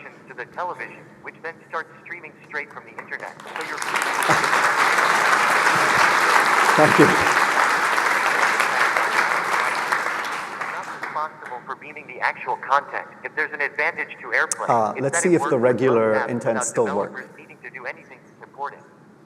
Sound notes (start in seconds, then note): 4.7 applause